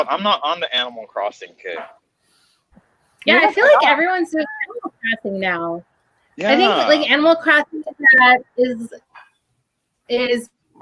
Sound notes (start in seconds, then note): 4.9 audio malfunctioning